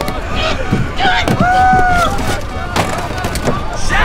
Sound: grunting

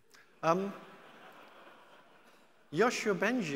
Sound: audience laughing

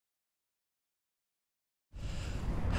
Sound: heavy breathing

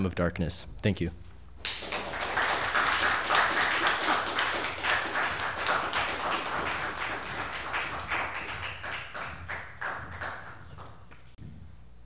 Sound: applause

